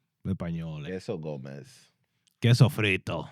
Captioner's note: non-english Speech